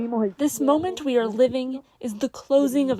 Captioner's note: through translator